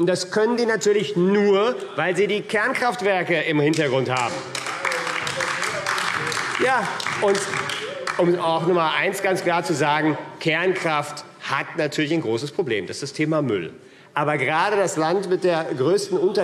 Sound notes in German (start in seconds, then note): 5.4 Beifall : Die teuerste Energiequelle überhaupt!